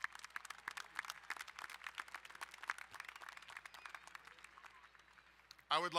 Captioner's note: crowd cheering and applauding